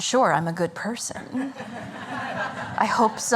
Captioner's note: laughter